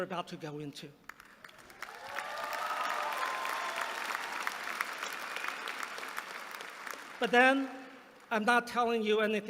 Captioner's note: applause